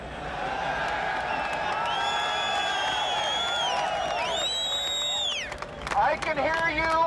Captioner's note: crowd cheering